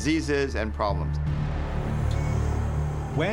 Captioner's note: monitor beeping steadily